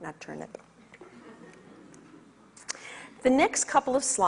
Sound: audience laughs

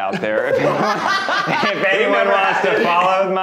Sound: laughing

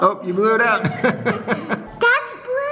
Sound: laughing

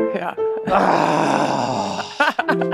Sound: sighs; laughs

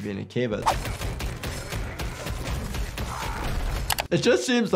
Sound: punches thud; man grunts; keys clack

